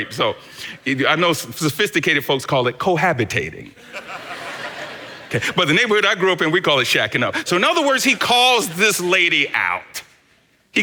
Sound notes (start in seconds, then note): 3.8 congregation laughs